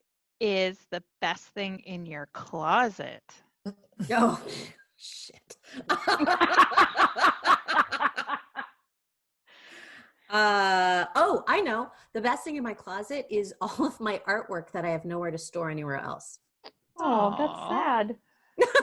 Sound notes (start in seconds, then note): 8.6 laughter